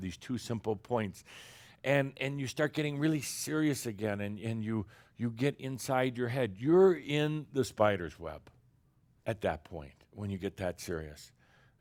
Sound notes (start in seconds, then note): none